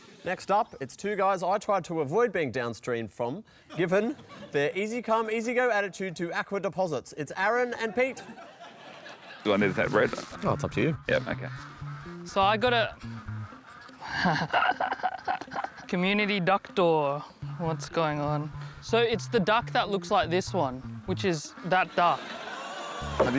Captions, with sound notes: Next up, it's two guys I tried to avoid being downstream from, given their easy come, easy go attitude to aqua deposits. It's Aaron and Pete. Do I need to take bread? Oh, it's up to you. Yep. OK. So I got a... (LAUGHS) "Community Ducktor." What's going on? So it's the duck that looks like this one, which is that duck.